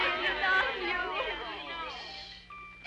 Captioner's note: girls chattering